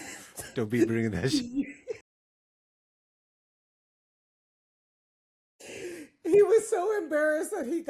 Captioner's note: laughing